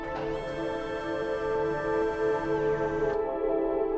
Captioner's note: robotic arm motor buzzing